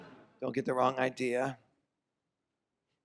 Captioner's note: none